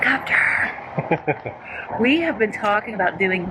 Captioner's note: laughs